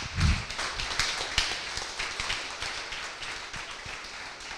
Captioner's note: applause